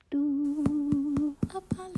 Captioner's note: vocalizing; rhythmic tapping